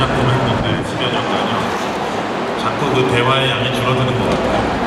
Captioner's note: speaking Korean